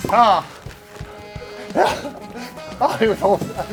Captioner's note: tennis balls caught; tennis balls caught